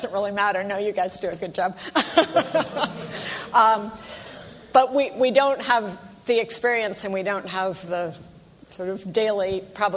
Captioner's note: laughs